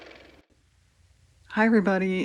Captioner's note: car motor